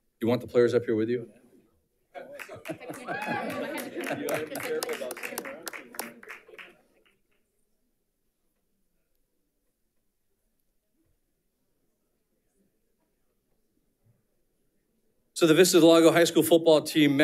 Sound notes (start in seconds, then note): 2.1 audience laughing and applauding; 5.0 crowd chattering